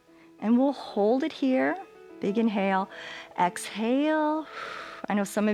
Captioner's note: exhales